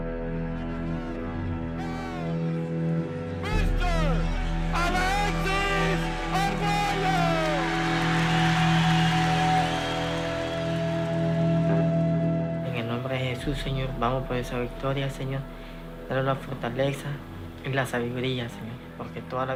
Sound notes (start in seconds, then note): 7.3 crowd cheering